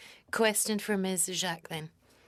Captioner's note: speaking French